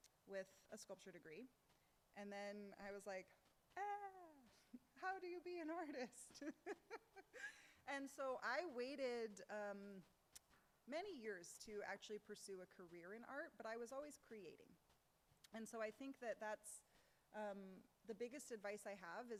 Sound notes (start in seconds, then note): 6.1 laughs